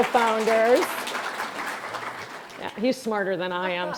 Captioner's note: audience applauding